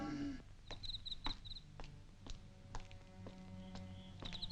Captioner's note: insects chirping; soft, tense music